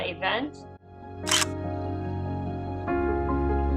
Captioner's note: camera click